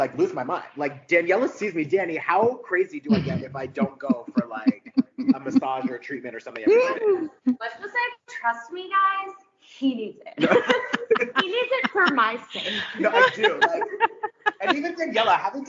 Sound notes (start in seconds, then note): 10.4 all laughing; 14.3 laughing